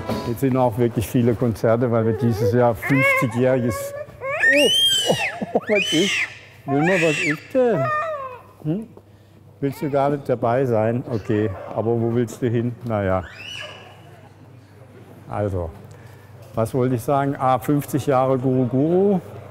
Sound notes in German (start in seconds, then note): 4.2 schreit